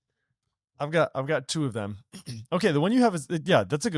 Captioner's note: clears throat